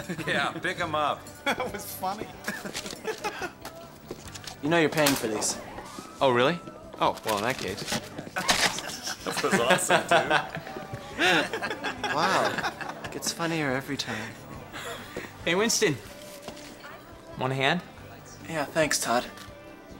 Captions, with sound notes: -Yeah, pick 'em up. -That was funny. You know you're paying for these. Oh, really? Oh, well, in that case. -That was awesome, dude. -[laughing] Wow. It gets funnier every time. Hey, Winston? -Want a hand? -Yeah, thanks, Todd.